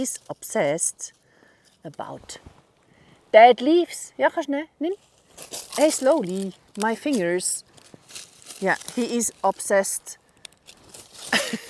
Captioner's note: laughter